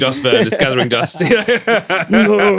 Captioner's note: laughing